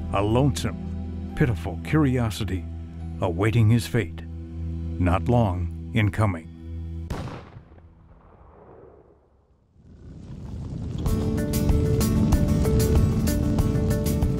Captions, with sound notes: a lonesome, pitiful curiosity awaiting his fate not long in coming. [GUNSHOT] [HOOF BEATS, BISON VOCALIZATIONS, MUSIC]